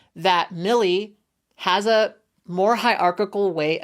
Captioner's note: none